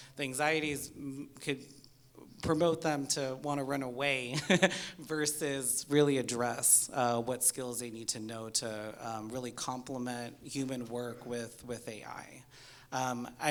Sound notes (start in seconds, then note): 4.8 laughs